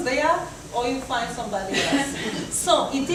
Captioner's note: audience chuckles